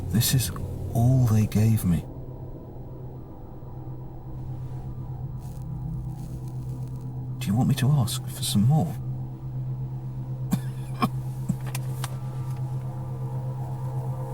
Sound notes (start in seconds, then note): 10.5 man coughs